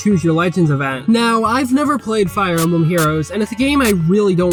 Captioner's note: static noises in between